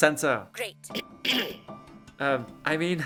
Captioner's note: ahem